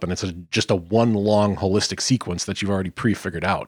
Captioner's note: none